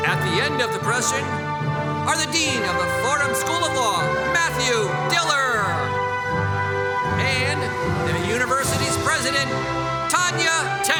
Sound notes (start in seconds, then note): none